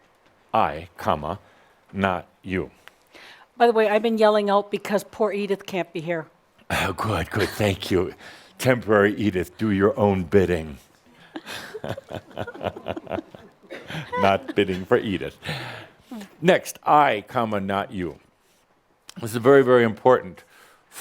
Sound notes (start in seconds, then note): 11.2 they giggle